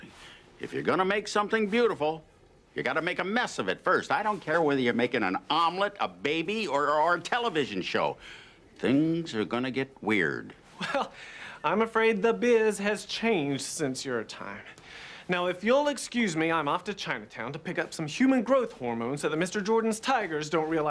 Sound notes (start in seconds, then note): 10.7 laughs